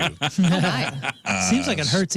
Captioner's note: laughter